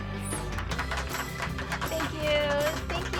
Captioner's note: audience applauds